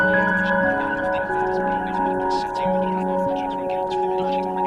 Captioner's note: chatter continues